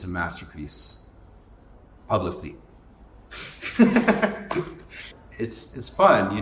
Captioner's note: laughs